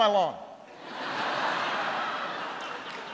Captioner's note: laughter